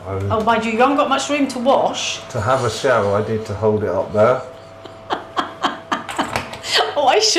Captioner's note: laughter